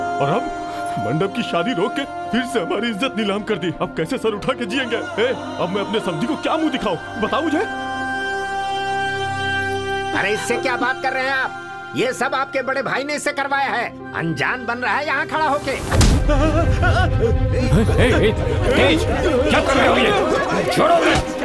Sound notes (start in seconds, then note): 16.2 groaning